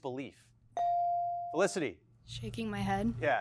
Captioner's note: bell chiming